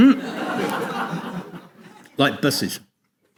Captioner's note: audience laughs